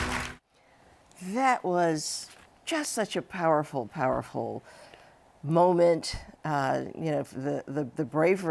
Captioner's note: applause